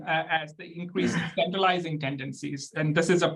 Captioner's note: clearing throat